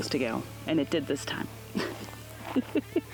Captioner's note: laughing